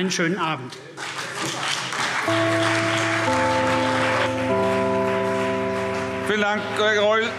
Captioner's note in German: Beifall CDU und vereinzelt BÜNDNIS 90/DIE GRÜNEN